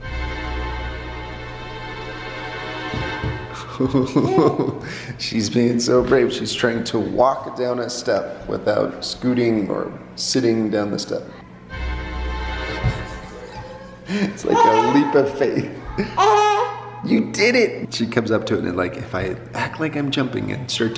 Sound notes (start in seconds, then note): 0.0 suspenseful music; 3.5 laughs; 12.7 laughs